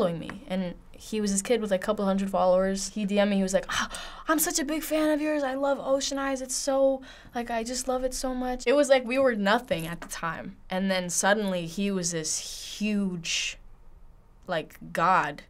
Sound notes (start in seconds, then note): none